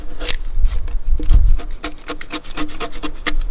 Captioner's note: axe scraping